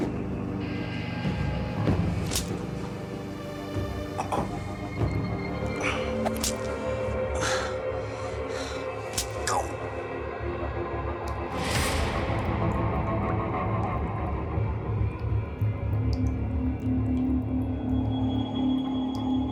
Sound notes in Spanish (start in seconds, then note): 2.2 sonido del latigazo; 5.7 sonido de los latigazos